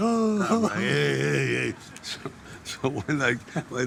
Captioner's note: men laughing